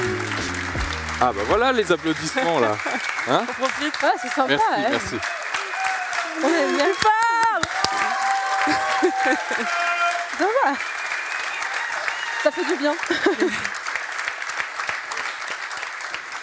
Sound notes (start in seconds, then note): 3.4 laughs